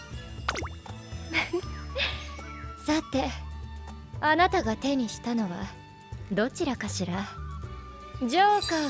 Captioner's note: laughs